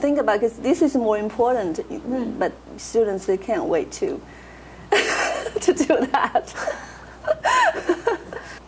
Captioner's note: laughs